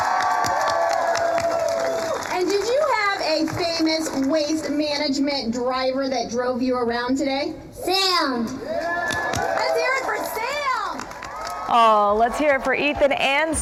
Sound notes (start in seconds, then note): 5.2 applause; 13.2 applause